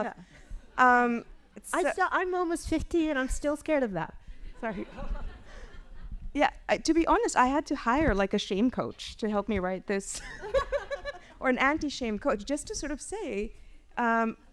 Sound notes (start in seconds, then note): 4.6 audience laughs